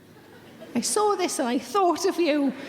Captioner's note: audience giggling